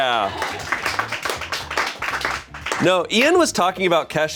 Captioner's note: crew applauds